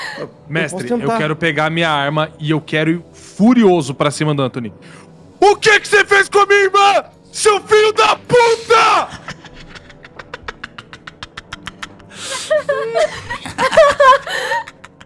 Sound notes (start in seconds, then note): 9.0 giggles; 13.6 laughs